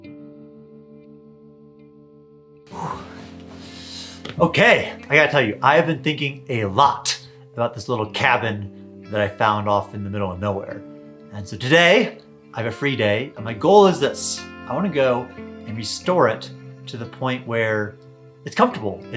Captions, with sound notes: (sighs) Okay. I got to tell you, I have been thinking a lot about this little cabin that I found off in the middle of nowhere. And so today, I have a free day and my goal is this. I wanna go and restore it to the point where it's comfortable.